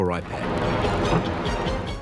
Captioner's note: clock ticking